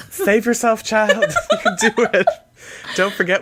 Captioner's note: laughs